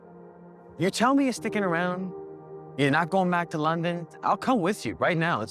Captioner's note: voiceover